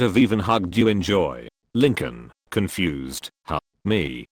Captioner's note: confused